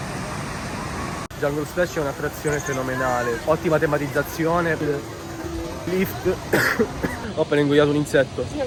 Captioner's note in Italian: tosse